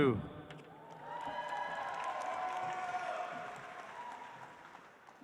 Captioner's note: audience applauds